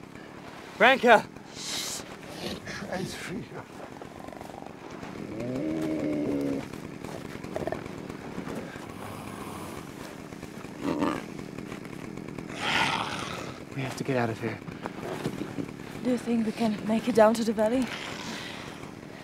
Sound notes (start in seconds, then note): 4.8 moans